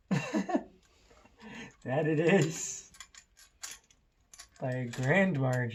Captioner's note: laughter